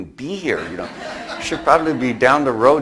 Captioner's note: audience laughs